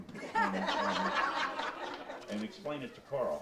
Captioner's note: audience laughs